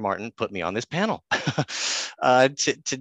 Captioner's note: laughs